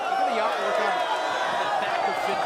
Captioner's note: crowd chatter; crowd cheering